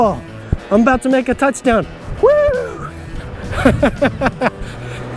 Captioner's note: laughs